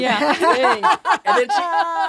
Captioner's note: laughs